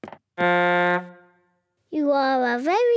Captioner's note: blows horn